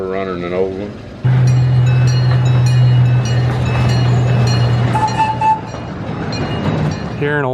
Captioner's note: bell rings and whistle blows